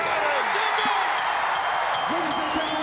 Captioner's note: bell ringing